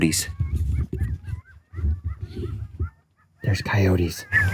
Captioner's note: coyotes yelping